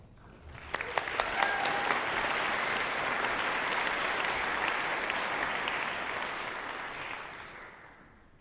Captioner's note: applause